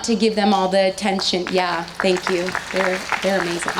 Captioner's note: audience applauds